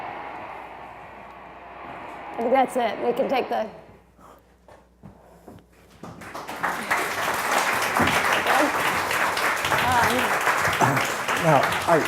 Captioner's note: clapping